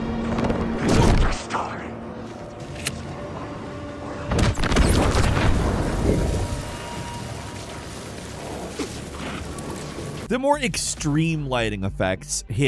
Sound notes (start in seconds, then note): 0.9 enemy smacks; 4.4 explosion booms